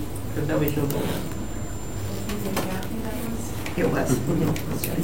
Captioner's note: boardroom chattering